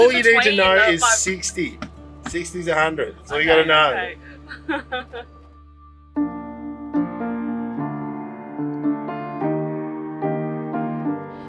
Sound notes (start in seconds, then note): 4.3 chuckles; 6.0 mellow piano music